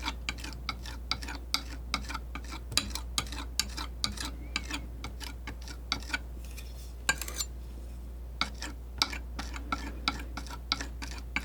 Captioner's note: tapping